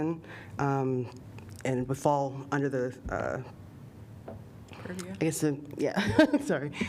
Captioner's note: laughter